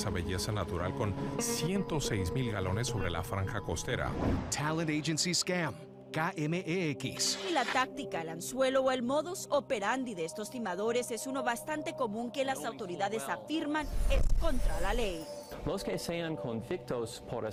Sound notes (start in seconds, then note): 8.6 speaking spanish